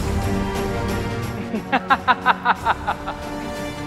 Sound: laughs

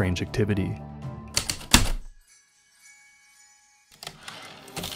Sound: typewriter keystrokes, light chimes, typewriter return slide

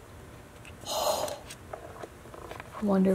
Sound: gasps

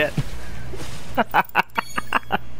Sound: laughing

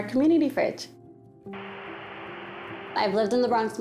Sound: static noise

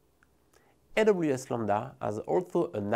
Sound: text whooshing

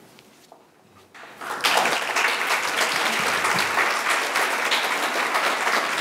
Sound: audience applauding

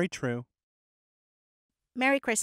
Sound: happy Silence

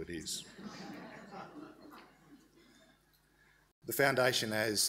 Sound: audience laughs

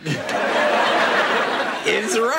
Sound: audience laughs

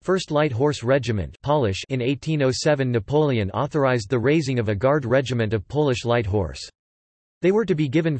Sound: Polish

